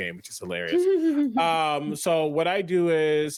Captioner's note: players laughing